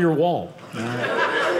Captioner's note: audience laughing